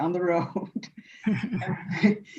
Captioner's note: chuckling